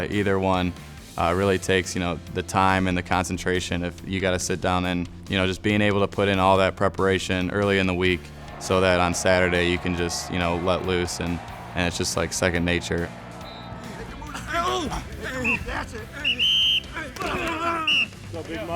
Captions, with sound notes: really takes the time and the concentration of you got to sit down and just being able to put in all that preparation early in the week so that on Saturday, you can just let loose and it's just like second nature. (whistling) (grunting)